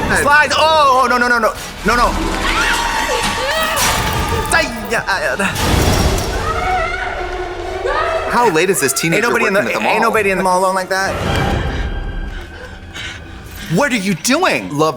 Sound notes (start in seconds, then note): 4.6 Katya yelping; 6.3 Heather screaming; 12.1 Heather gasping